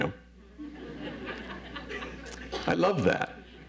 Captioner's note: audience laughs